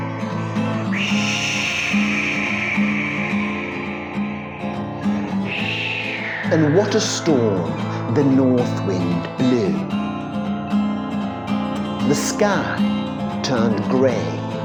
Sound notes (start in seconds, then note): 1.3 whistling wind